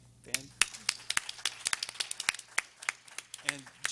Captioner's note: everyone applauding